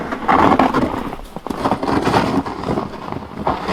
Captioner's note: snow crunching